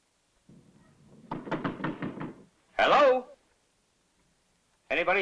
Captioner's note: knocking